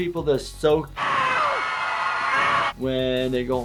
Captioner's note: audience screaming